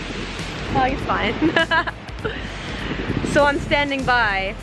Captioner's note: laughs